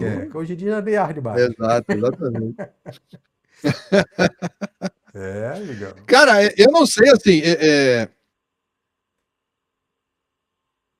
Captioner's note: laughs